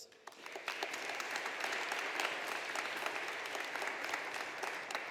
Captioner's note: audience applauding